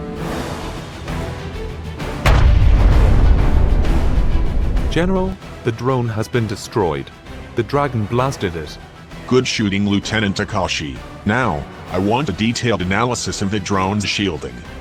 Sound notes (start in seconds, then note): 2.2 boom - Explosion